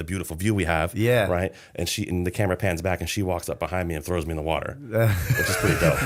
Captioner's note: laughter